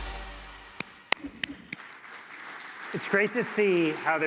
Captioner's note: applause